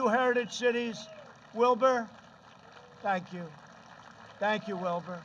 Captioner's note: applause